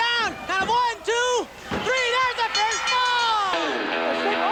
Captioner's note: audience cheering; bell rings; lighthearted guitar music